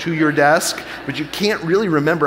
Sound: audience laughing

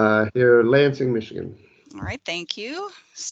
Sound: laughing

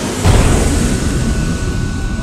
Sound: boom!

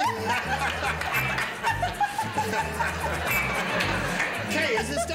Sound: laughter

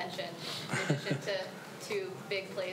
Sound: Julian laughs

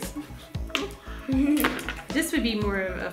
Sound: laughs

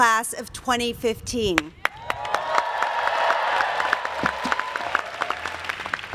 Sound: applause

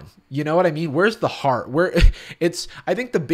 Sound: scoffs

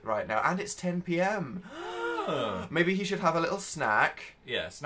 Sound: gasp

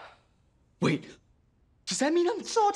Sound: sighs

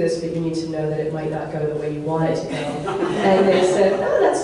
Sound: audience laughs

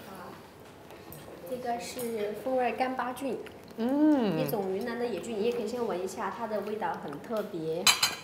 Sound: speaking Chinese

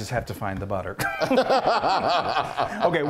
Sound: both laugh

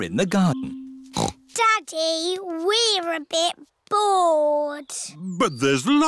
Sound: snorts

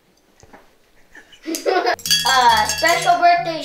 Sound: laughing

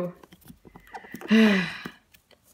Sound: breathe

